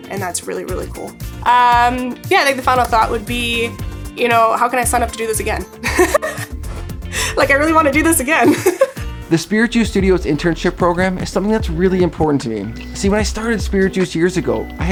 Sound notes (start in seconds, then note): 5.8 laughs